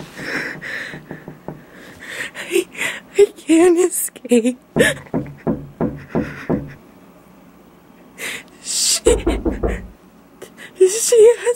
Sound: knocking; knock

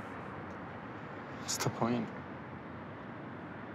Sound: none

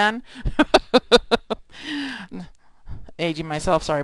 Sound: laughing

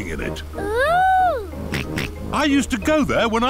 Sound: snorts

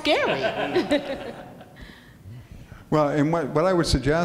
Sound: laughing

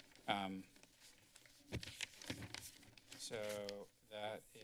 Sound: papers flipping

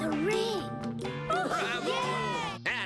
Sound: cheering

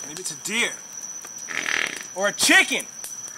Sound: farting noises

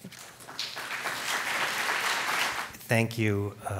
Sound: applause

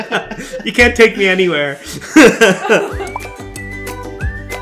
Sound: laughs; playful music

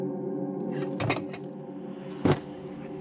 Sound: object falls nearby

